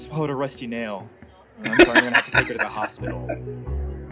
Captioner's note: laughing